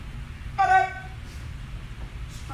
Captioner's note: enthusiastic shouting